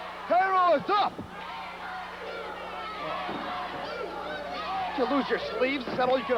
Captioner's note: crowd cheering